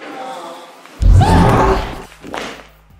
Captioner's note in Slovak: zvuky umierajúceho autistického dieťaťa